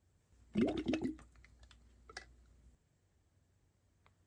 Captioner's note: water gurgling